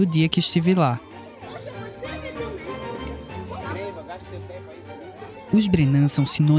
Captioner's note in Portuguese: som de conversas, público